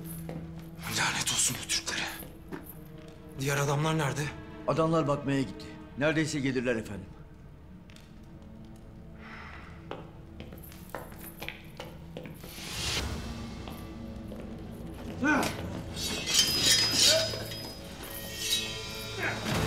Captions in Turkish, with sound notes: Lanet olsun bu Türklere. Diğer adamlar nerede? Adamlar bakmaya gitti. Neredeyse gelirler efendim. (Ateş çıtırtı sesi) (Ayak sesi) (Kılıç sesleri)